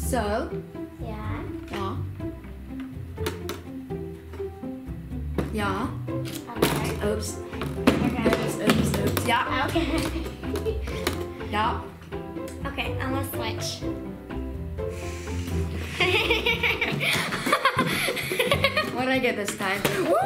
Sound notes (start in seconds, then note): 14.3 sighs deeply; 15.8 laughing